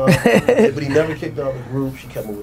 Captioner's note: laughing